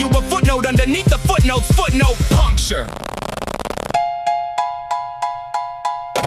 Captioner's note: verse 3 — Voice completely distorting